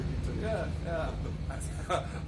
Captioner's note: laughing